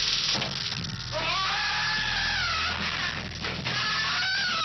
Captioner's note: screams